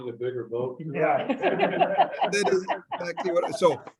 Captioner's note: members laugh